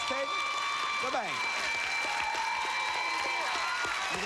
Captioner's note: cheers and applause